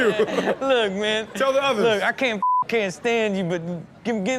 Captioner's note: beep